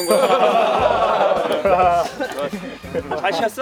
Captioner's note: laughing bell; laughing LOL